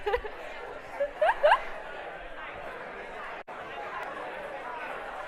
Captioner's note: audience mumbling